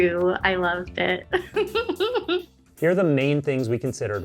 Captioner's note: laughs